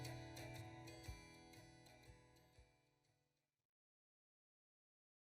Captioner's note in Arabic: صوت فارغ